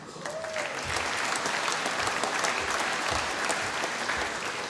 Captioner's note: applause